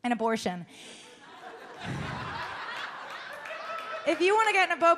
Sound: audience laughs and claps

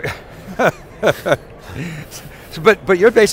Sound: laughing

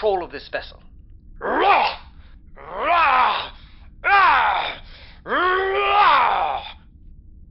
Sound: Klingon growling

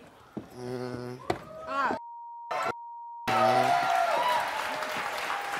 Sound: audience applause; beeping

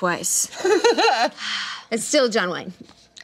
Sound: laughing

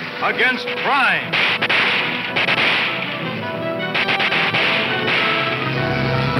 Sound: dramatic music; gun popping

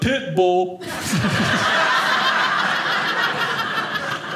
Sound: audience laughing

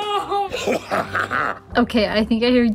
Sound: The Grinch laughs

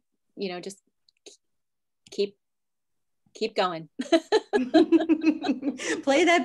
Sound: laughing

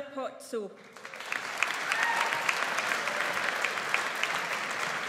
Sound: audience applauds

